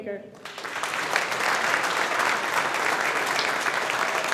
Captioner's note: audience applauding